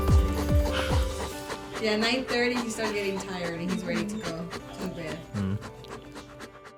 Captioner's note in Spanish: Jadeando